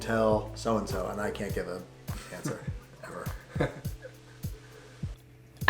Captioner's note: laughs